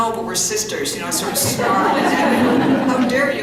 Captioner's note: laughter